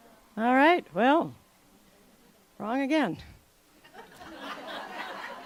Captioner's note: laughter